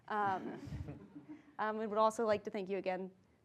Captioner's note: laugh